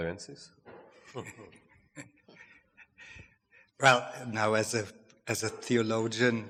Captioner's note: chuckles